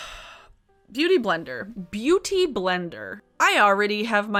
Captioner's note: sighs